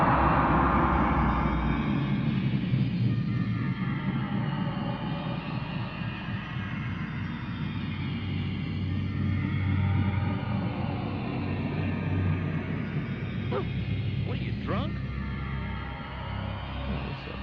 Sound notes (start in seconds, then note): 13.5 dog barks